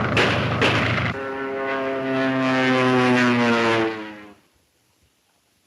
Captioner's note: engines roaring